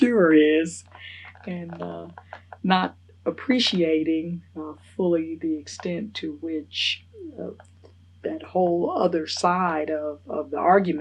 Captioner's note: laughs